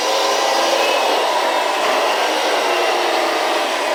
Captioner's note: truck rumbling